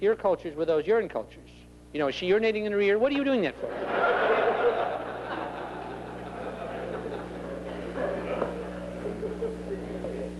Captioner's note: laughter